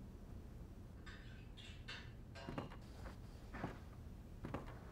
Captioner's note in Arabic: طقطقة خافتة للأطباق